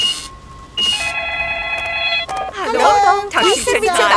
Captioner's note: beeps; cash register beeping; cellphone ringing